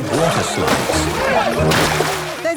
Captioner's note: laughing